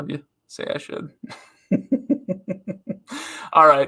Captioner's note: giggles